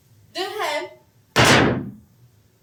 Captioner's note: sticks pound